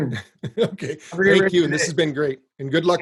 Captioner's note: laughs